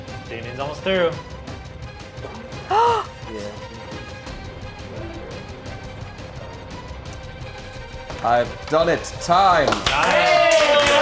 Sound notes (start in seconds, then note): 2.5 gasps; 9.4 producers cheering